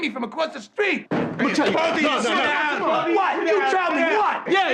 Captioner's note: men arguing